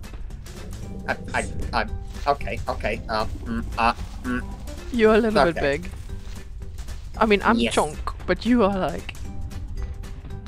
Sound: giggles

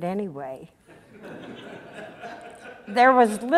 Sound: audience laughter

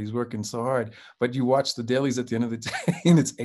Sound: chuckles

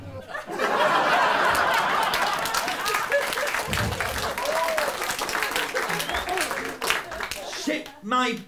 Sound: laughter and applause

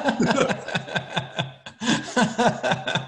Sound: laughs

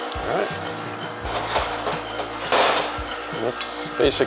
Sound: metal clangs

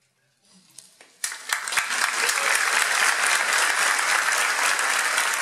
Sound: audience clapping

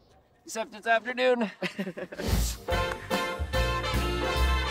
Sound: laughter

